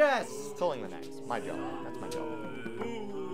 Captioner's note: audience Boos